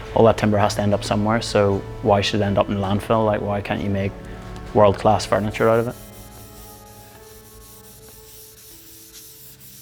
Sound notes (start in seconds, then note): 5.3 scrubbing